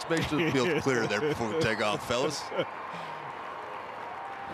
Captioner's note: laughs